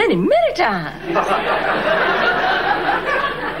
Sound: audience laughing

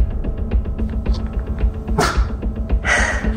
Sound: woof

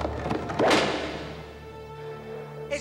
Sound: crack!

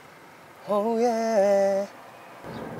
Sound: A late hum back

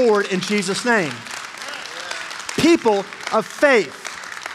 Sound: congregation applauding

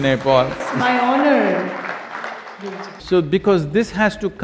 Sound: laughs; applause

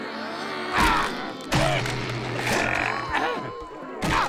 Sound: groaning

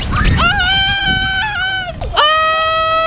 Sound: screams

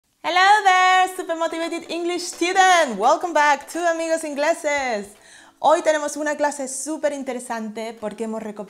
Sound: Spanish

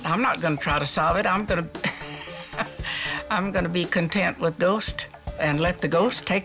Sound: laughs

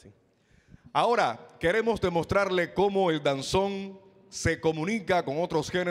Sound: MC speaking in Spanish

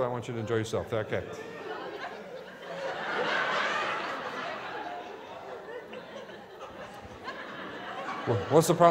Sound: laughter

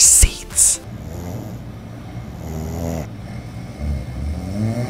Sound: snoring

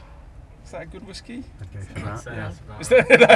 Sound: audience murmur agreement

